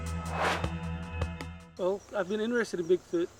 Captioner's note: intriguing music continues; air swooshes